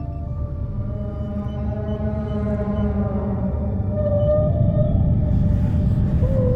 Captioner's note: Aerozoan distant, subsonic moanss